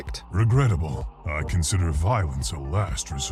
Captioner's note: voiceover